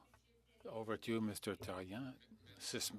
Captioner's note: speaking French